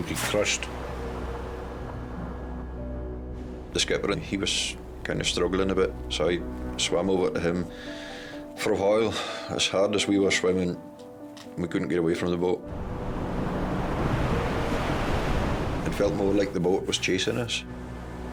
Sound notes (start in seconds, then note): 12.6 waves roaring; 13.0 gentle music; 18.1 gentle music